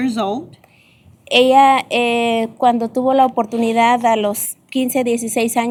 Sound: speaking spanish

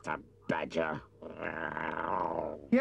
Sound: Chief Weasel growls

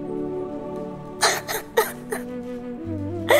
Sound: sobbing

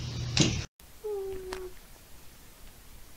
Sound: boooop

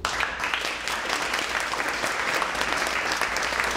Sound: clapping

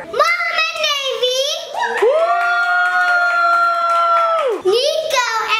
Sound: crowd cheering

